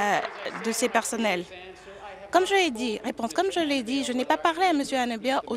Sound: applause

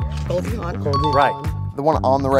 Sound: bell ding

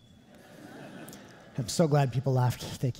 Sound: audience laughing

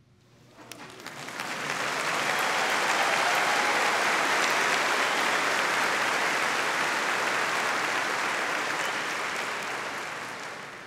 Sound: audience applauding

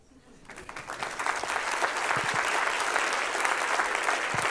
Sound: applause

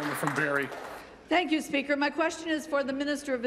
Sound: applause

